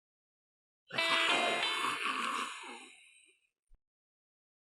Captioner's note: low growling